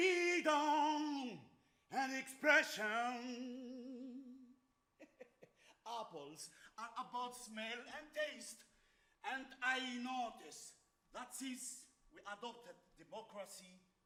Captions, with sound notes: Freedom and expression. (laughs) Apples are about smell and taste. And I notice that since we adopted democracy,